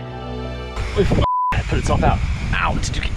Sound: beep

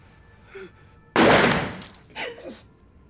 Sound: gunshot

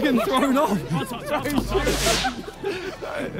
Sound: players laugh

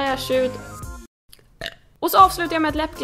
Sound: burp

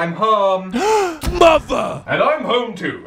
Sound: gasping

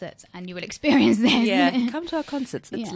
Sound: laughs

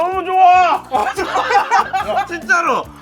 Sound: laughter

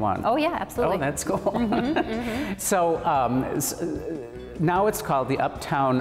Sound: laughs

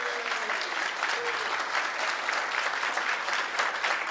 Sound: applause

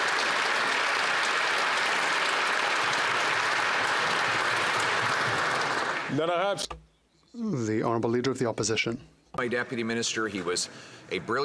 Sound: applause

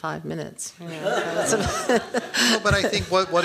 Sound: laughing

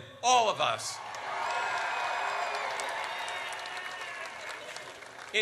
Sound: audience cheers

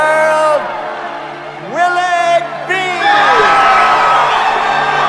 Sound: crowd cheering

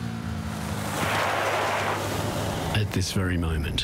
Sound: wheels skidding

